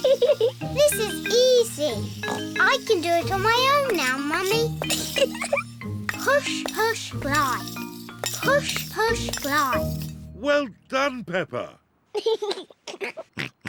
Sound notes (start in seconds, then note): 0.0 giggles; 2.2 snorts; 4.9 giggles; 12.1 giggles